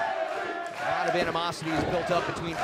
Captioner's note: fans chanting